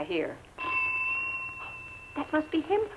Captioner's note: ring